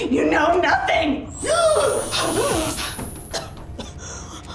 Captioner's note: electricity buzzes; Madam Maze gasps; Madam Maze coughing